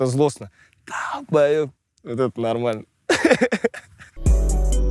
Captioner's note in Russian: смеется; музыкальная заставка